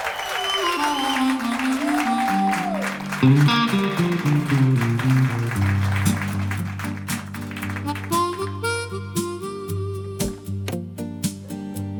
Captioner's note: applause